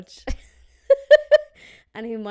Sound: laughing

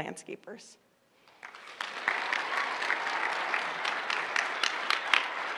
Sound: applause

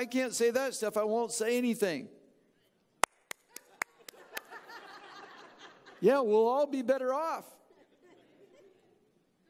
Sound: clapping and audience laughing

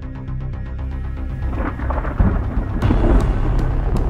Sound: thunder claps

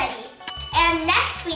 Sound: bell dings

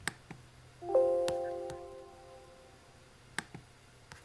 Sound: computer dings

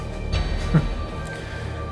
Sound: derek laughs

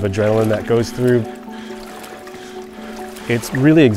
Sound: water splashing

